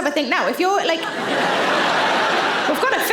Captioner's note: audience laughing